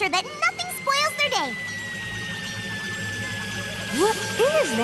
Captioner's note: whistlin